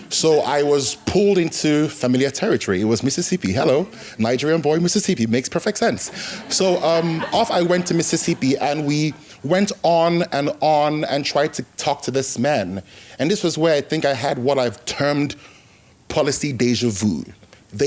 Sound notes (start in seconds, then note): 6.0 laughter